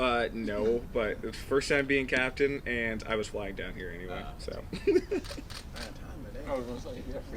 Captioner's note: laughing